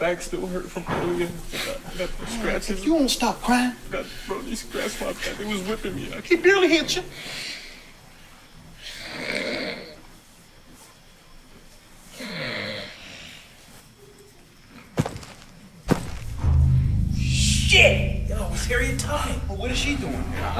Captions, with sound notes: My back still hurt from earlier. If you don’t stop crying! ...he was whipping me. He barely hit ya. [snoring] Shit! Yo, it’s Harriet Tubman! But what is she doing here?